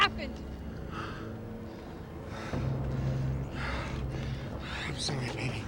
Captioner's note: Jeff panting